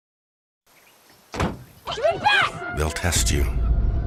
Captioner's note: children arguing